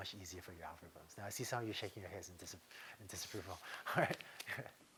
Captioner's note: laughter